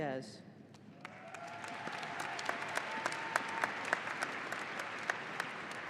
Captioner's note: audience applauding and cheering